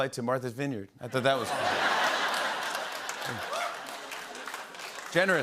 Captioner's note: laughter